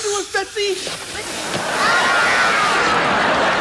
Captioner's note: laughs